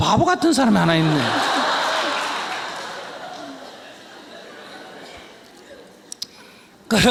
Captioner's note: audience Laughter